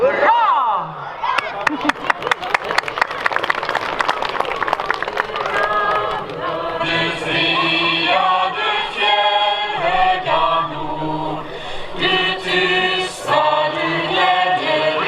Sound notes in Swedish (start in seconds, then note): 1.3 Applåder